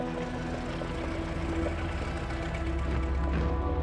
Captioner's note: engines running